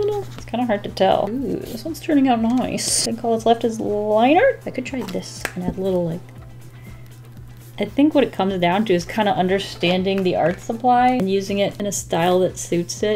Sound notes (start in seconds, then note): none